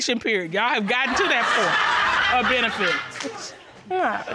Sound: audience laughs

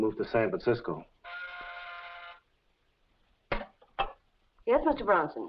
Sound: intercom buzzes

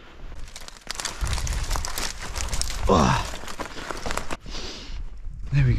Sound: sound of twigs rustling

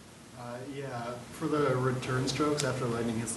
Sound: voiceover

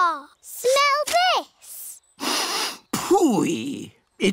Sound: sniffs

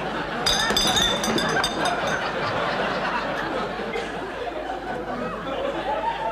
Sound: glass clinking; audience laughing

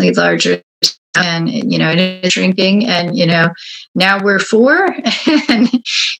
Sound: laughs

